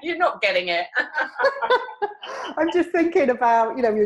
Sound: laughing

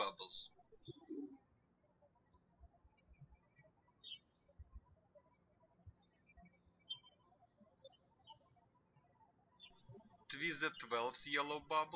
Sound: birds chirping

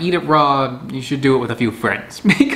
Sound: chuckles

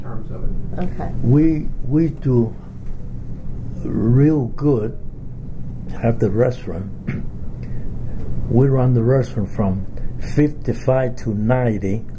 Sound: coughs

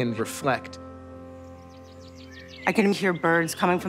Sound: birdsong

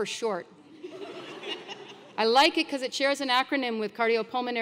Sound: laugh

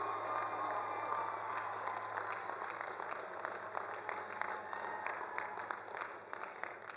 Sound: all cheering; all applauding

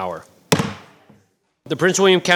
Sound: gavel banging

